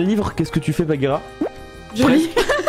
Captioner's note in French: plop